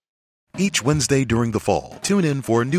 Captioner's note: voiceover